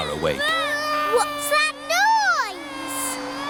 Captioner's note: vacuum cleaner whirring